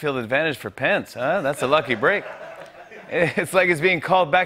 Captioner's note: laughter